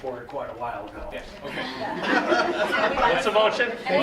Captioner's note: laughter